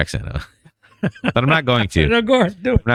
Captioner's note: uh